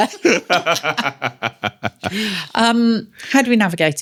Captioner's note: laughing